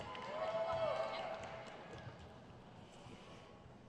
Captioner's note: crowd cheers